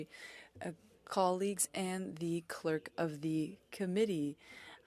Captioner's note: speaking French